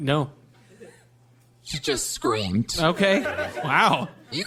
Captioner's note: audience laughter